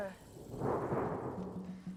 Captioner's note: thunderclap